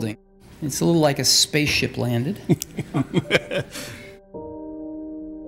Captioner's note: laughs; calm instrumental music